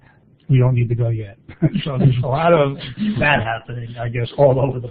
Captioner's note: laughter